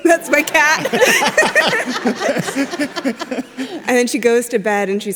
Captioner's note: group laughs